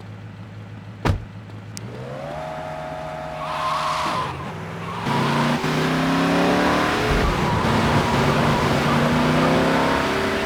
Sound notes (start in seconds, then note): 1.8 engine revving; 1.8 tires screeching